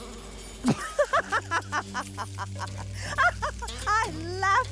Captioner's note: Manyara laughing